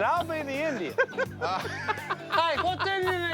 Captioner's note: laughs